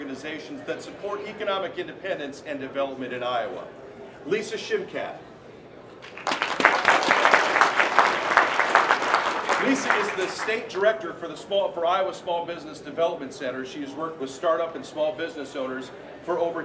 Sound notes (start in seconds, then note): 6.0 applause